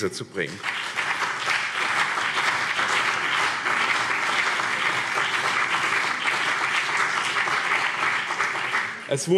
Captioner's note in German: Beifall BÜNDNIS 90/DIE GRÜNEN und CDU